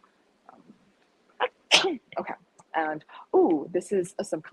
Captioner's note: sneezes